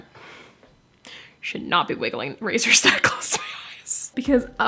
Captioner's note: laugh